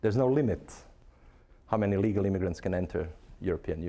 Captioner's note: none